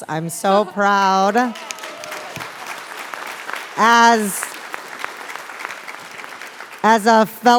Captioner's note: applause